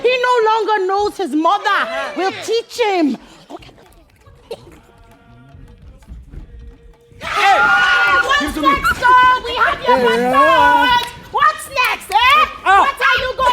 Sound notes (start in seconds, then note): 4.6 footsteps